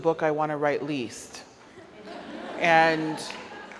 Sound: audience laughs

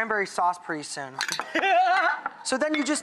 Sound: laughs

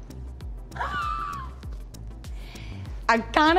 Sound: laughs

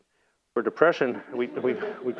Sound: laugh

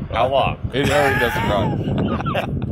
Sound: laughter

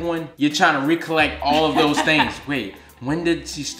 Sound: laughing

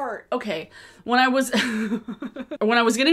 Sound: laughs

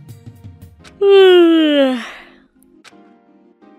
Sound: yawns

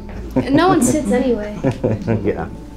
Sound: laughing

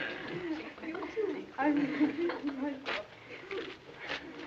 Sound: giggling

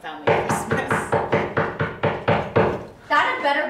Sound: knocking

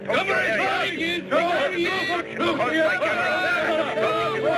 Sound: men shouting

